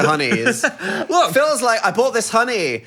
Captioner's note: laughs